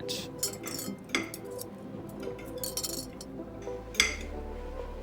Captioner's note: silverware clinking